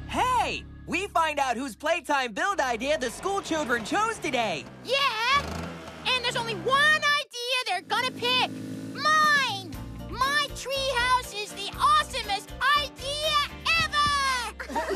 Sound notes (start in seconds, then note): 5.2 revs Engine